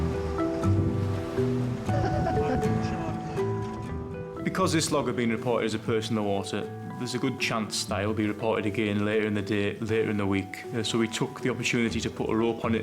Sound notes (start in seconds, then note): 0.6 gentle music; 2.5 crew members chuckling